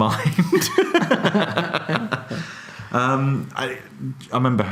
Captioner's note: laughing